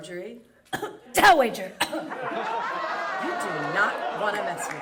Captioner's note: cough